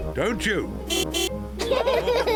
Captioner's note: horn honks; all laughing